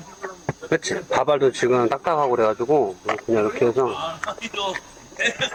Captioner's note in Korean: 냠냠